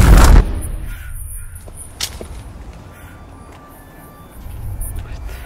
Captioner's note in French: bruits de marche